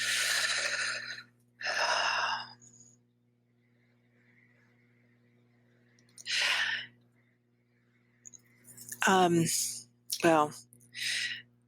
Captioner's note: thoughtful silence